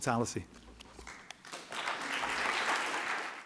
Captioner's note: applause